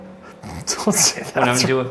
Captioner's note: laughs